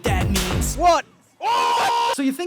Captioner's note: screaming